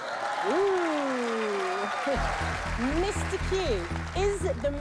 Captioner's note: cheers and applause